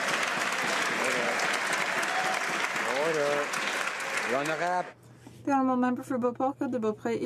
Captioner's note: some Applause